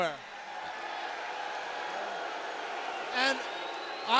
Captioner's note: audience cheers